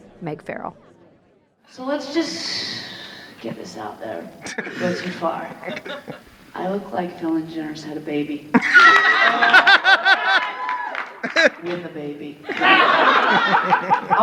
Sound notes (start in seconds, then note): 4.4 audience laughing; 8.5 audience laughing